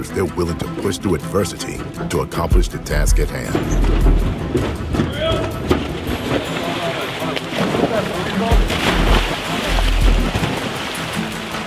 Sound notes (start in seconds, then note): 3.3 metal jostling; 6.3 water sloshing; 7.9 water splashing